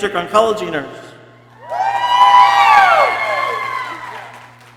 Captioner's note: people cheering